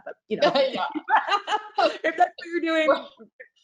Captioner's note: laughing